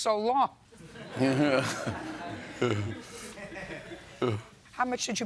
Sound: laughter

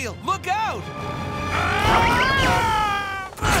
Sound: screaming

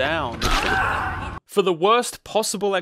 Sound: man screaming

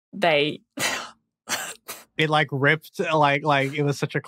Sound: cracks up

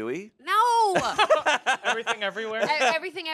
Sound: everyone laughs

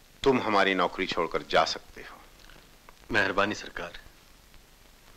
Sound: none

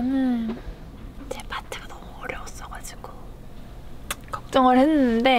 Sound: whispering

